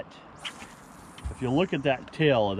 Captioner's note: reel spinning